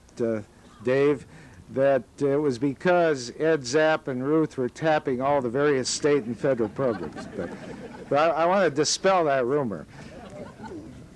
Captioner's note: laughter